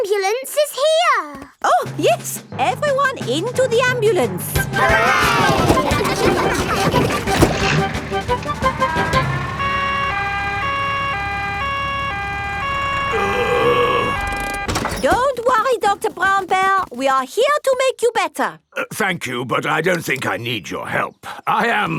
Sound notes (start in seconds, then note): 4.7 giggling; 10.2 siren wailing; 12.8 groaning